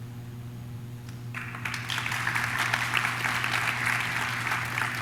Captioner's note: audience claps